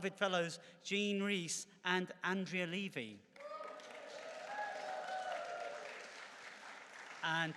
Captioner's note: cheering and clapping